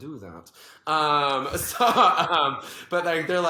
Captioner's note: both laugh